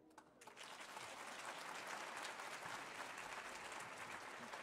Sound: audience applauding

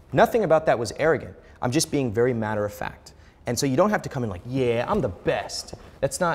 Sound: none

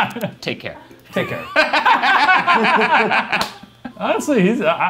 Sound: group laughing

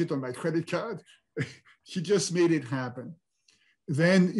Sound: chuckles

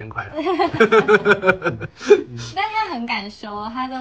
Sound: laughs

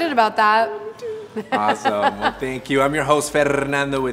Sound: laughs

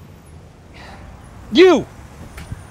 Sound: sighs

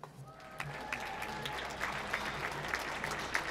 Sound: applause

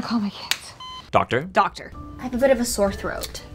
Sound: voiceover

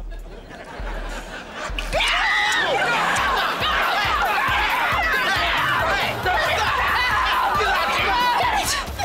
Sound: screaming

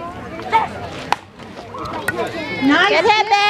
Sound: hits ball

